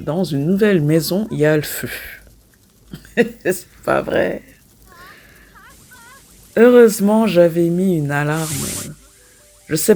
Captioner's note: laughs